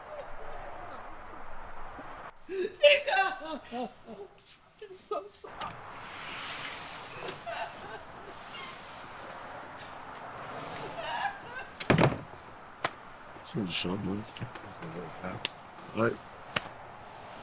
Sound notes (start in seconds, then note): 6.0 traffic rumbling; 14.6 Shawn mumbling